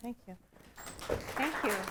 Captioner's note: applause